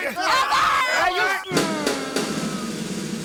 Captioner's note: yelling; tense music